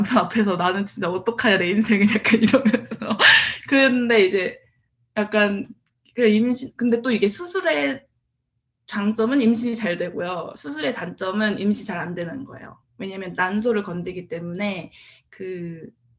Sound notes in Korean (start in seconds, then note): 2.3 웃음